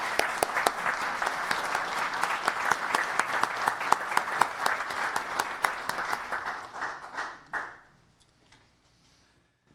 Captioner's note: applause